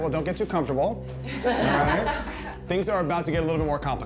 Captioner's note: daters laughing